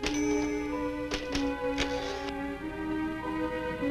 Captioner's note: keys clacking; bell rings